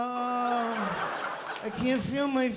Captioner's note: laughter